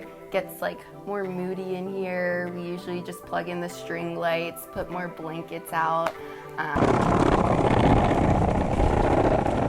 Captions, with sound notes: it gets more moody in here. We usually just plug in the string lights put more blankets out. (wheels rolling)